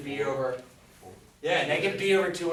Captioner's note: voiceover